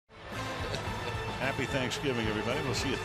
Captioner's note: chuckles